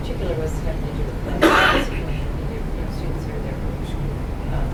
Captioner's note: cough